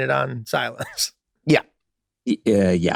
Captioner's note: Charlie laughing amusingly